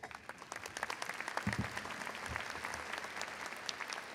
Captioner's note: crowd applauds